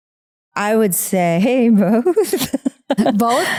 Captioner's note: laughing